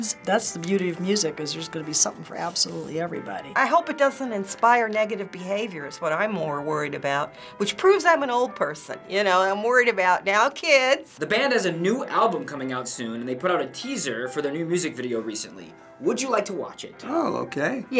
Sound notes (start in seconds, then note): 10.2 sternly